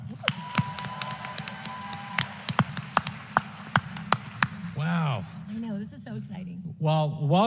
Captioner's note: applause